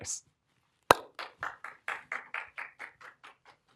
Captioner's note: applause